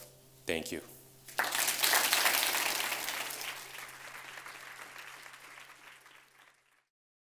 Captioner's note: audience applauds